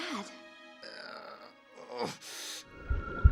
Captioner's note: groaning